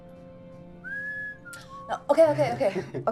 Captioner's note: whistling